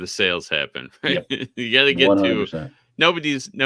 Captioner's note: chuckling